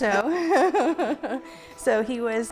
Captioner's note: laughter